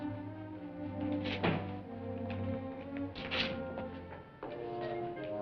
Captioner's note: moneybag hits the floor